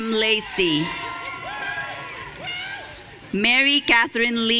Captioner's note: audience cheering